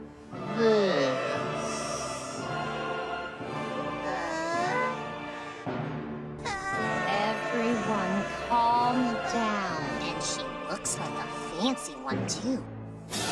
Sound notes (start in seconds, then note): 4.0 baby noises; 6.4 Infant Steven crying